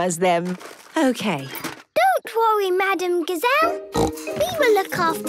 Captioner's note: snorting